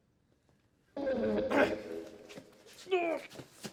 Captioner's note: men groaning